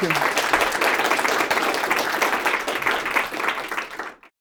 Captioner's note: applause